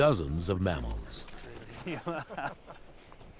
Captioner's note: laughing